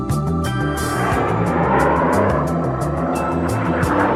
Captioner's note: airplanes roaring